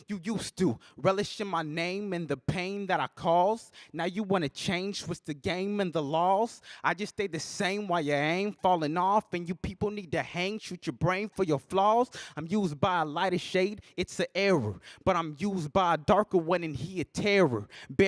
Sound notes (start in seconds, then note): none